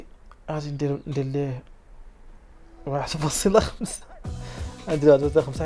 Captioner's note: hh